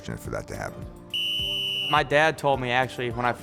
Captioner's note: whistle blows